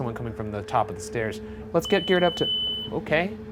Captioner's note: tone beeping